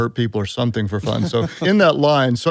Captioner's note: laughter